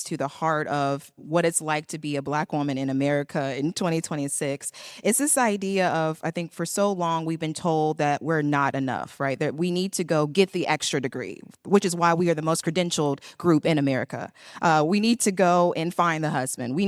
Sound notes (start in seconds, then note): none